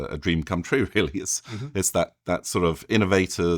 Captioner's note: chuckles